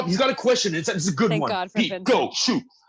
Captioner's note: laughs